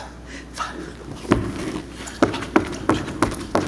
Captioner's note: boots thudding